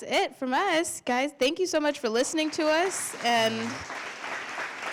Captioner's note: applause